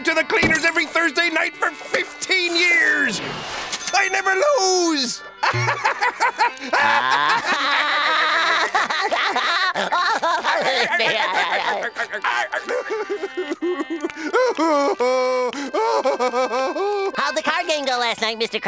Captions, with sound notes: every Thursday night for 15 years! I never lose. [laughing] [crying] How'd the card game go last night, Mr. Krabs?